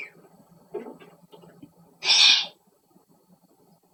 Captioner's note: whispers